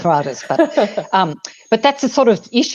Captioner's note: chuckles